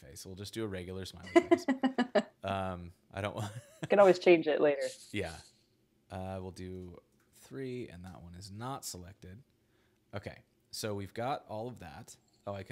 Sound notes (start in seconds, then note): 1.2 laughs; 3.4 laughs